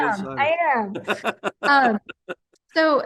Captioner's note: laugh